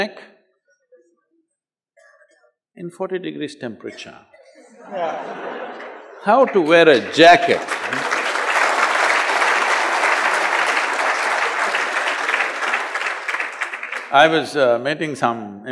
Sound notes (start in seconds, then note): 4.5 laughter; 10.8 applause